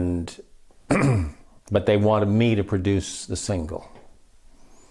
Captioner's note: clears throat